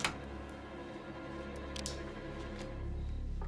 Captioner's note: lock clinks; knife clicks